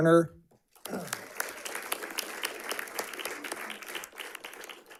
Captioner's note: audience clapping